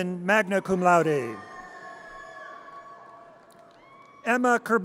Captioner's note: audience cheers